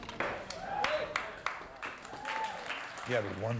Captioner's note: cheering